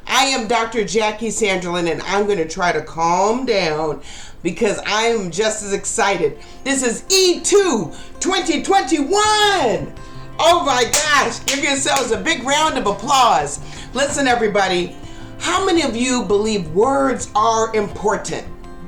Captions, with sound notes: I am Dr. Jackie Sanderlin, and I'm going to try calm down because I am just as excited. This is E2 2021! Oh my gosh, (claps) give yourselves a big round of applause. Listen, everybody. How many of you believe words are important?